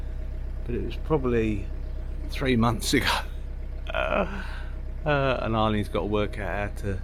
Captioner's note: laughs